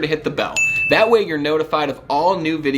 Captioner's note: bell rings